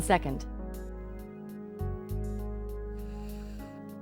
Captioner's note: blows